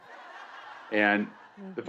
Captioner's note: audience laughing